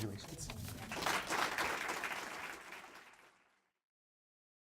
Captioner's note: audience clapping